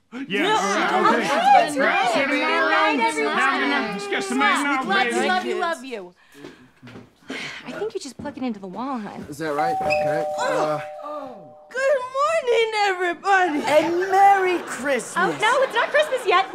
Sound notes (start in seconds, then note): 0.2 various noises of agreement; 7.3 sigh; 9.7 doorbell rings